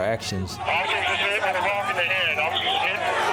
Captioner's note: police On Radio